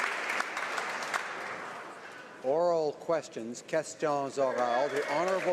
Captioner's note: applause